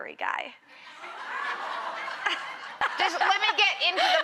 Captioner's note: audience laughing